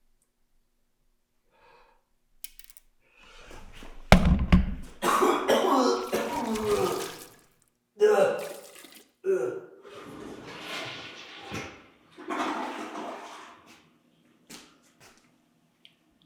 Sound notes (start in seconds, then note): 4.1 camera thuds; 4.1 tooth thuds; 5.0 Jacob vomiting; 9.8 toilet flushing